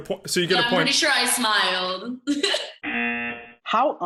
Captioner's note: giggles; buzzer